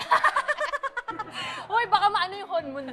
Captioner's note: laughs